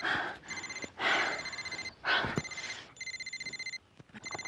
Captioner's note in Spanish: Continúa sonando el celular